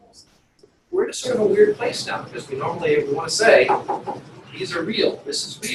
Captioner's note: knock knock